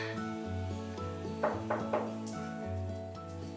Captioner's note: knocking at the door